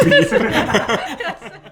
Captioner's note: laughter